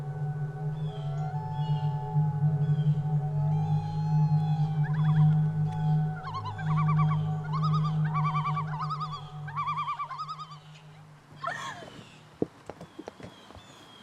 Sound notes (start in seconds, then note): 1.4 loons warbling; 11.4 Donna laughs